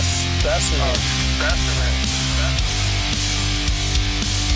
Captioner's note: voiceover